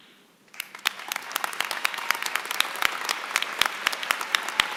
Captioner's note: applause